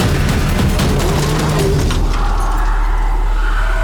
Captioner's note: engines revving; dramatic music; tires screeching